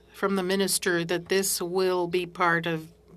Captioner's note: speaking French